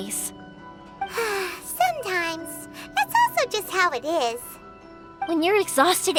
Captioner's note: sigh